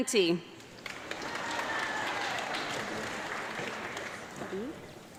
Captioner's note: audience clapping